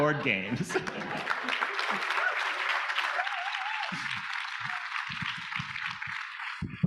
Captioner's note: audience applauding; audience cheering